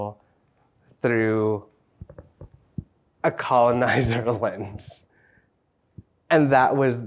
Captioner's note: laughs